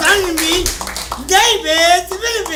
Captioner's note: applause